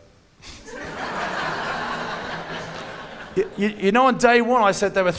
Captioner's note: audience laughing